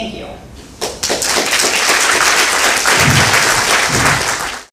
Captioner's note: audience applauds